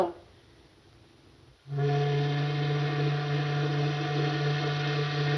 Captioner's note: horn blows